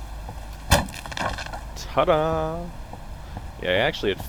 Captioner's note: boards clunk